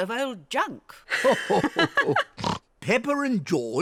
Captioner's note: grandpa and granny laugh